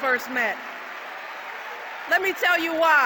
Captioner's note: applause